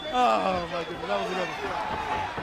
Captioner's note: crowd chatter